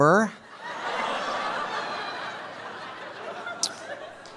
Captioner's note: audience laughing